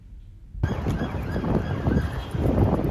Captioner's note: siren; wind